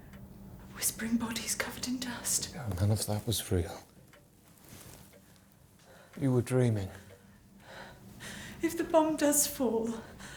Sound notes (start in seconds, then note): none